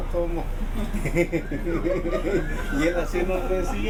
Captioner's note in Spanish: risas